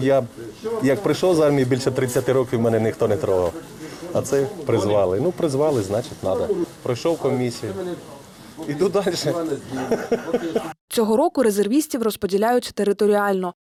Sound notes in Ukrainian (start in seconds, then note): 9.7 Сміється